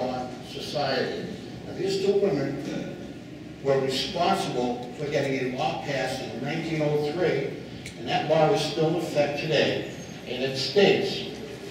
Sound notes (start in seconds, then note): none